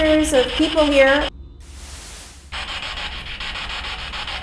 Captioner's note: static buzzing